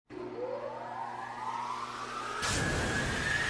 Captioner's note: whirring sound